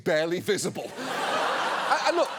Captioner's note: studio audience laughing